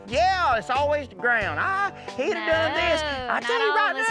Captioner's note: imitates female's voice